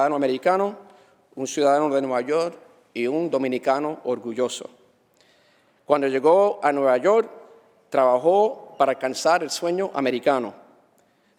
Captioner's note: speaking spanish